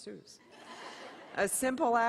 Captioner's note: laughter